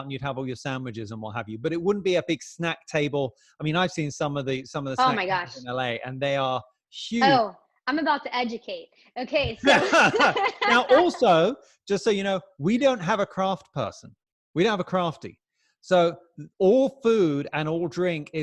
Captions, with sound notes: and you'd have all your sandwiches and what have you, but it wouldn't be a big snack table, I mean, I've seen some of the snack tables in LA. - Oh my gosh. - And they are huge. - Oh, I'm about to educate. Okay, so. (laughing) - Now also, just so you know, we don't have a craft person, we don't have a crafty. So all food and all drink